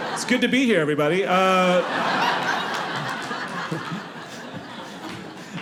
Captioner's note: audience laughing